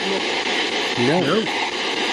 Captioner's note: SB7 chattering